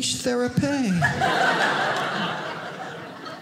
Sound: audience laughing

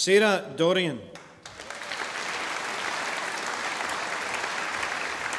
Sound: audience applauding

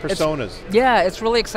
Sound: says in foreign language

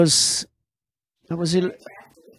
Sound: laughs

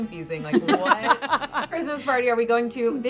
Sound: laugh

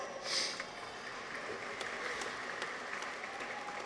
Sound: audience applauds

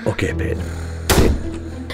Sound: door slam SFX

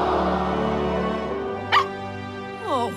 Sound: barking

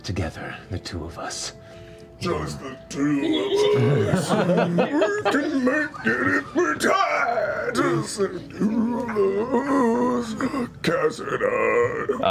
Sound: strained

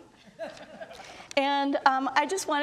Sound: audience laughs

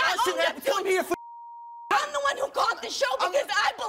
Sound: beep

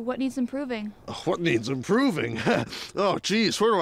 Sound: laughs

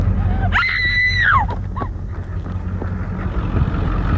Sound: Alexie screams

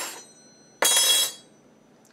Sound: clank

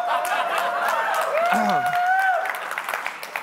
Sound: congregants cheering; claps hands; clears throat

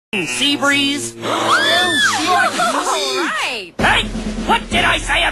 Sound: cheering

